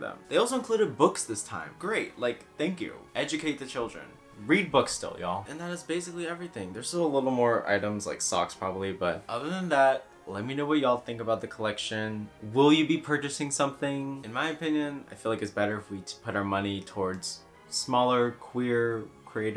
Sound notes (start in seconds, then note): none